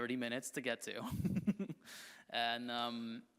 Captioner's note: chuckles